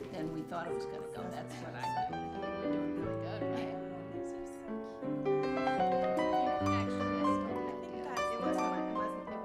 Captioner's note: chattering